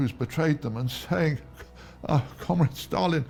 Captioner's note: chuckles